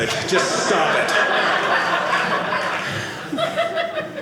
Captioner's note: audience laughing